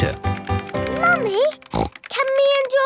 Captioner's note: snorts